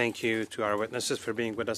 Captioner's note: speaking French